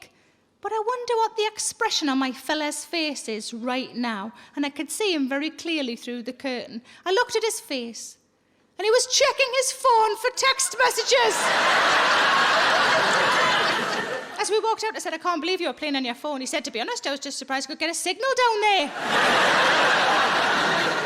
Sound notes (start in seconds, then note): 10.9 audience laughing